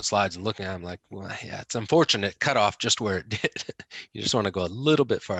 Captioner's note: laughs